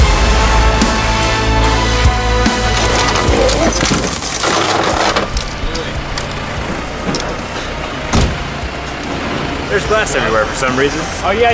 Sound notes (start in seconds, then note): 0.0 epic music; 2.6 chains clatter